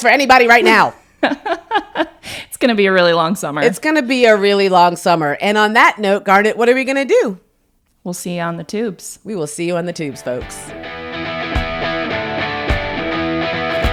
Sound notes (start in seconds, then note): 1.3 laughs; 10.5 upbeat rock music